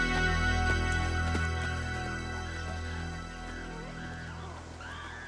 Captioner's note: animals squealing